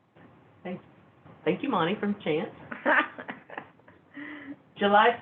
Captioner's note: laughs